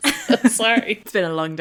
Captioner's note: laughing